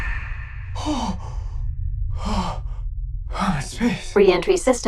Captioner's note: gasping